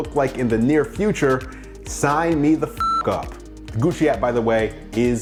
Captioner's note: beep